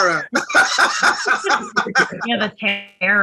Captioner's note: everyone laughing